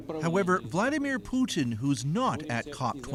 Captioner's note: speaking Foreign Language